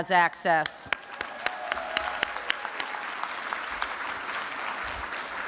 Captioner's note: applause